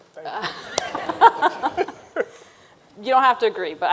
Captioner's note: everyone laughing